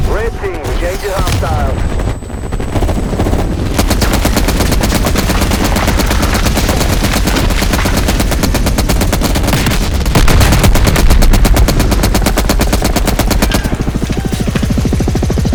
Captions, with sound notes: Red team, change your arm styles. (gun fires)